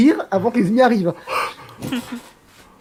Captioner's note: laugh